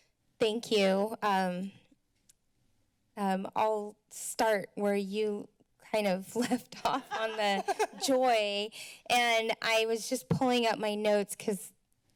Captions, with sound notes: - Thank you. I'll start where you kind of left-off [laughs] on the joy. And I was just pulling up my notes 'cause